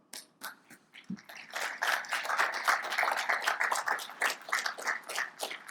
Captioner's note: audience applaud